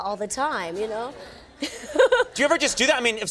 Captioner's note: Nancy laughs